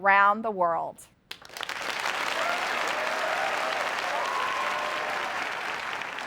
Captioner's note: applause